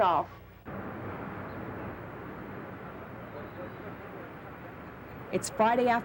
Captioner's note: wind whistles